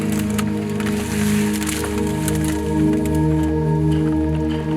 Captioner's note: bag crunching